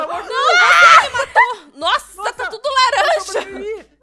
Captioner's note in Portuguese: grita